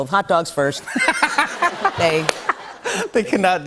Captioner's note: laughter